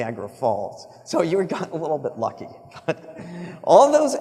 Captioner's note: laughs